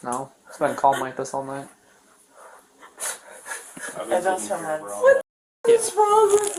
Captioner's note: sobbing